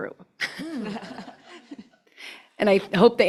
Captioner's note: laughter